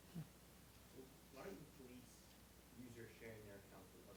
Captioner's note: voiceover